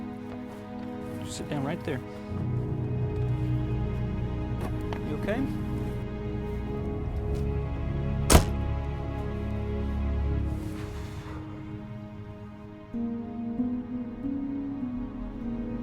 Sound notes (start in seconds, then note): 10.6 exhales